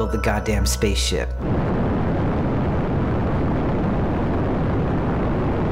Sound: rocket sounds

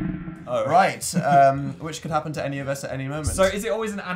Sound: laughs

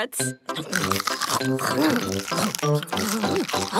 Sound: crunch

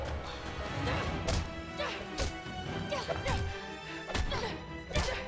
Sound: grunting

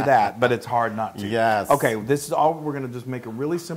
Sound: laugh

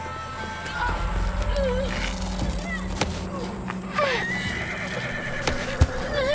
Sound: Brigit grunting; horse whinnying

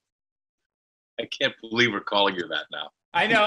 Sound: laughs

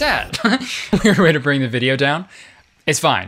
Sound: giggles

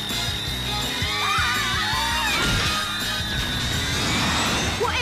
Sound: crash

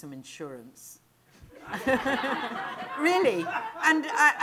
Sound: laughter

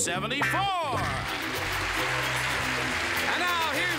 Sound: applause

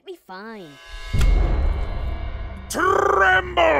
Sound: slamming sound and dark music

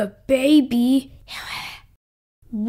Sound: whisper!

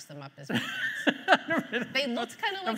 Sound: host laughing

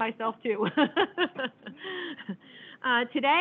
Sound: laughing

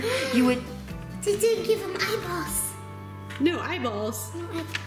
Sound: gasps

